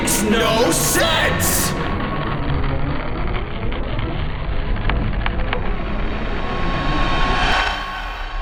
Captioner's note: droning and flashback